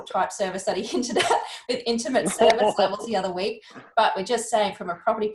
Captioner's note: chuckles